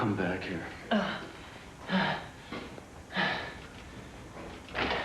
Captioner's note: gasping